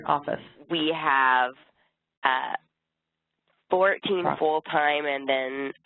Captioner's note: voiceover